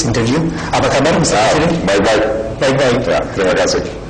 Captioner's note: non-english speech